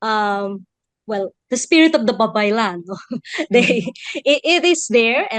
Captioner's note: chuckles